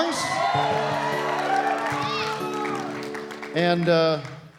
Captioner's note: cheering and applause